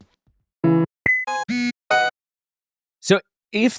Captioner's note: upbeat music continues; electronics beeping